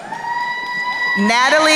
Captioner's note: crowd cheering